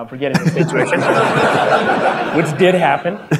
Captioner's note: audience laughter